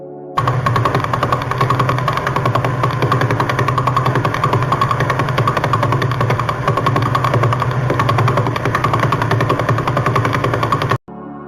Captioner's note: sound of a Pulsar